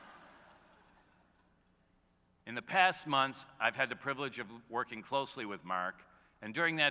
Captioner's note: laughter